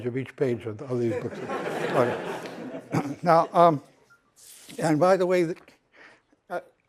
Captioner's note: laughter